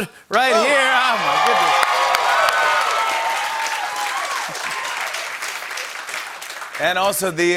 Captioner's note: cheers and applause